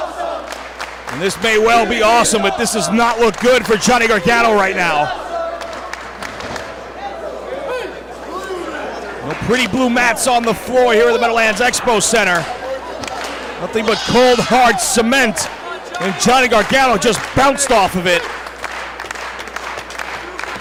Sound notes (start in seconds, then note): 0.0 applause; 5.4 applause